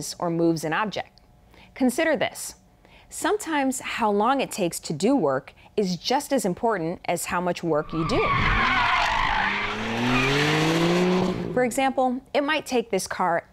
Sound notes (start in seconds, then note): 7.8 tires screeching